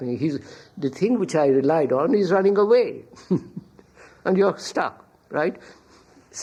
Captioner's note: laughs